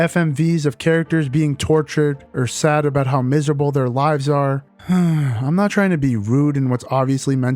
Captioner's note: sigh